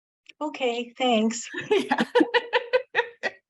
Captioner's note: laughing